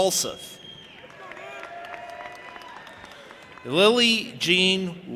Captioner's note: audience applauding and cheering